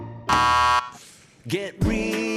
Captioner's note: buzzer buzzes